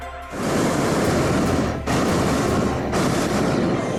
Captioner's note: burner roars